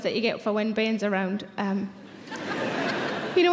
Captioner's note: audience laughing